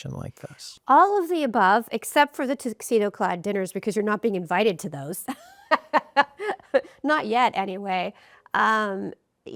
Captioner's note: rires